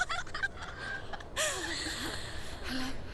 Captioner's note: laughing